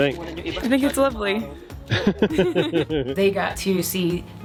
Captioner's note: laughing